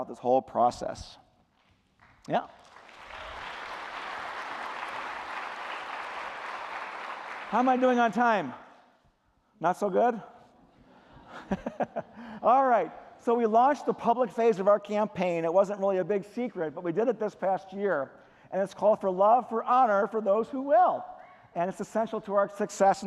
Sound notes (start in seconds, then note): 7.4 applause